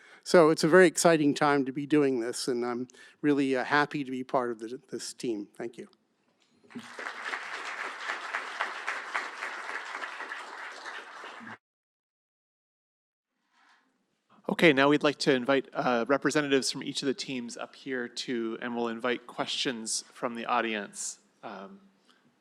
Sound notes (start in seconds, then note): 6.7 applause